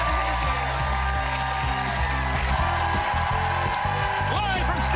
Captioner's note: cheers and applause